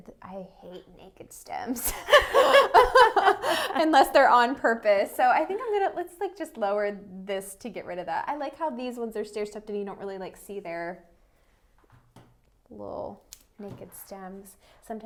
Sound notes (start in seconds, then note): 1.8 laughter